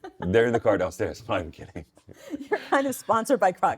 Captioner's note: laughing; laughs